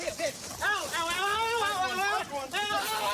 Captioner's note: screaming